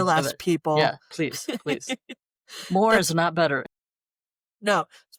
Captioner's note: laughter